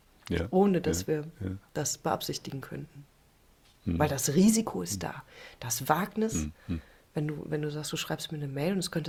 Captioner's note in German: räuspern